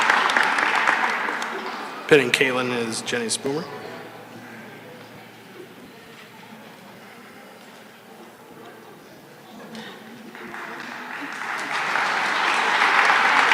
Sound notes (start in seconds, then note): 0.0 cheering and applause; 10.1 applause